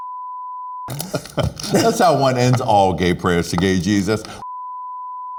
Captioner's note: laughing